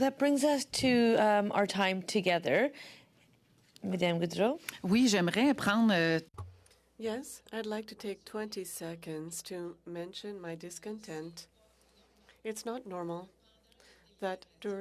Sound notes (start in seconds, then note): 10.7 speaking French